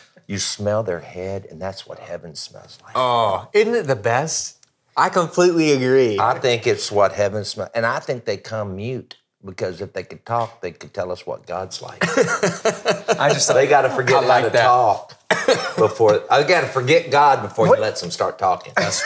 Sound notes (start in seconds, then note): 12.0 laughing